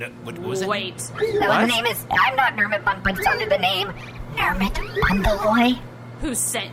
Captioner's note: whispering